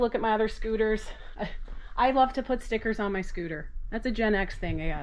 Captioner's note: chuckling